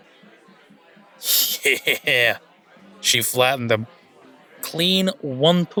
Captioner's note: laughs